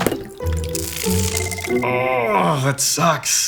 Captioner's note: frying electronics sound